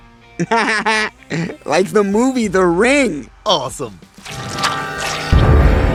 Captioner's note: person inhales and exhales; laughing; tense music